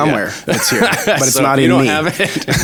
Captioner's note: laughs